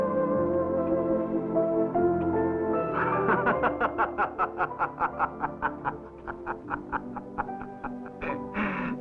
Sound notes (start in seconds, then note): 2.8 laughing